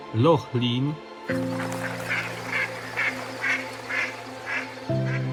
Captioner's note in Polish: Aplauz